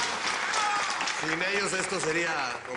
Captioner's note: Aplausos